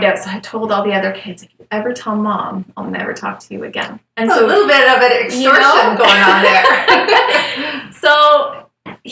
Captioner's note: laughter